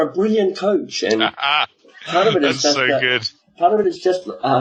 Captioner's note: laughing